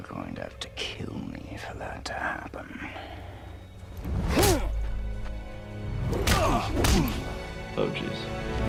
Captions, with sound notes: - You are going to have to kill me for that to happen? (fist smacking) - Oh geez.